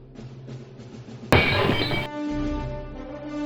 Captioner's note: glass breaking